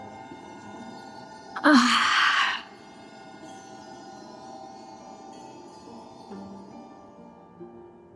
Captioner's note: sighing